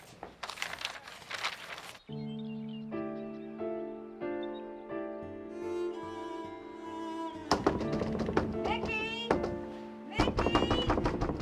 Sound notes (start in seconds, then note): 0.0 paper rustling; 1.9 gentle, melancholy music; 7.5 knocking